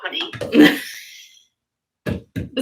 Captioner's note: Destiny laughs